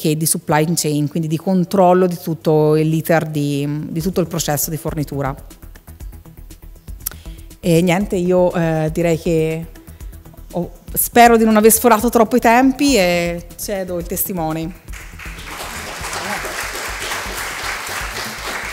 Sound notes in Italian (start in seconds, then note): 14.9 Applausi